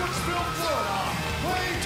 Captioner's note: crowd cheering